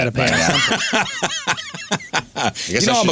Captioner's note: laughter